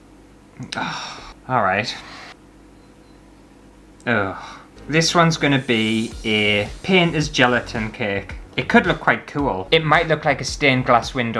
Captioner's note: sigh